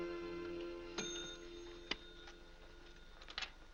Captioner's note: bell rings